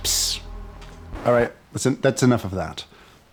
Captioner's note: record scratches